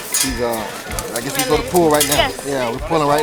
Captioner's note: voiceover